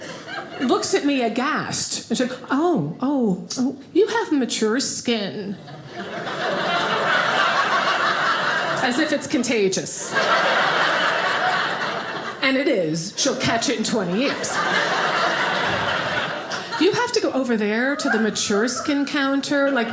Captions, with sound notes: looks at me aghast, she was like, "Oh, oh, oh, "you have mature skin." (audience laughing) As if it's contagious (audience laughing) and it is, she'll catch it in 20 years. (audience laughing) "You have to go over there, "to the mature skin counter,